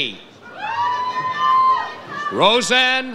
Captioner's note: audience cheers